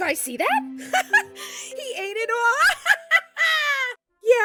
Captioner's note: laughs